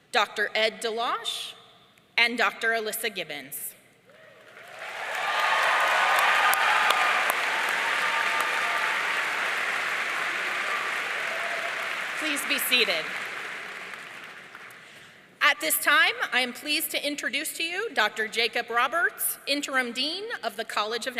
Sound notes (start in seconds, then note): 4.4 audience cheering